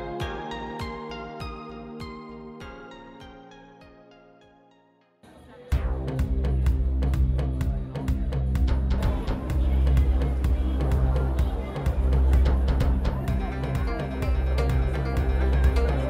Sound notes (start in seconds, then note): 5.6 heavy Drums; 12.8 arcade street sounds